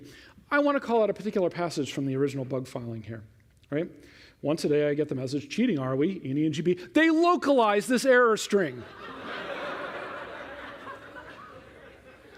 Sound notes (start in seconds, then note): 8.8 laughter